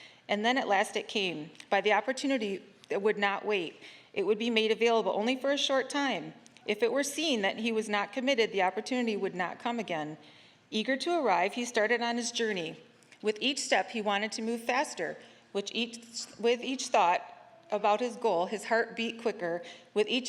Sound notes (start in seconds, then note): none